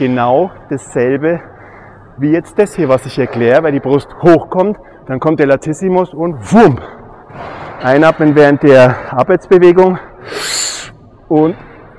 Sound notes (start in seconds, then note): 6.7 whoom